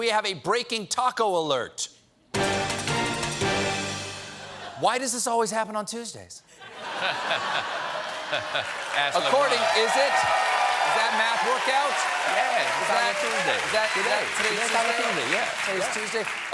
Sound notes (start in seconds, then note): 9.4 cheers and applause; 9.4 laughter